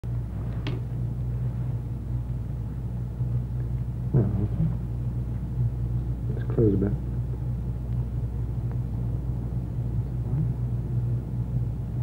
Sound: sound of medical instruments and doctor murmuring

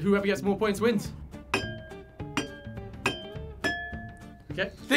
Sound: glasses chiming

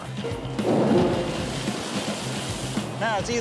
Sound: metal clanging

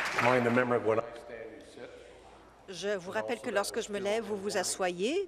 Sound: applause; voice trailing

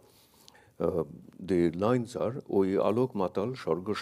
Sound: speaks in a foreign language

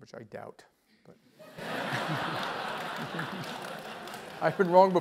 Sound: laugh

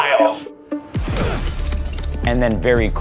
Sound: smash

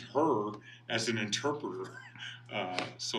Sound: laughing

